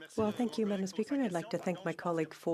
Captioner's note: speaking French